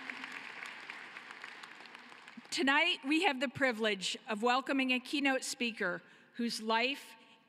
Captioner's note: cheering and applause